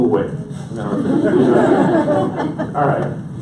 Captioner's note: audience laughs